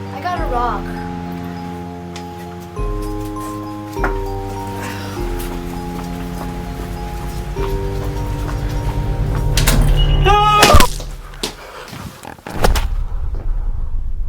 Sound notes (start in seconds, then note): 10.2 Larry screaming